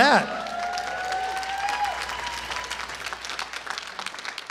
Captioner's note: applause